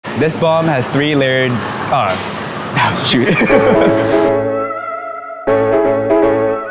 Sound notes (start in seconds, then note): 3.2 laughs; 5.4 upbeat music